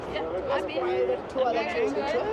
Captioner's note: overlapping chatter